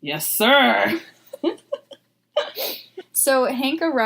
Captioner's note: both giggling